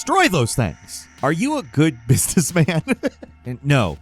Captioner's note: laughs